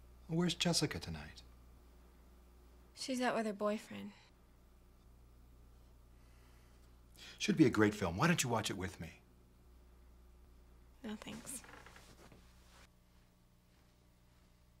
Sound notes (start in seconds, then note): none